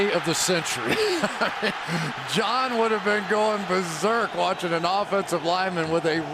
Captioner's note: laughs